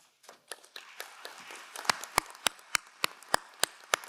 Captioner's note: crowd applauding